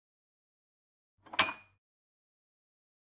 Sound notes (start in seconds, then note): 1.3 glass sound